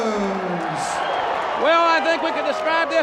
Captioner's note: audience cheers